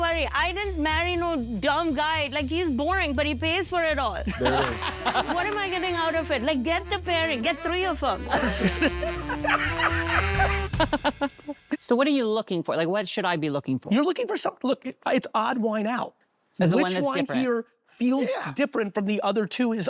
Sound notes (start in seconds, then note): 8.0 laughing